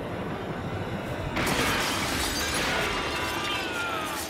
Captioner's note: screaming